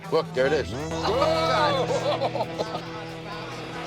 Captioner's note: shudders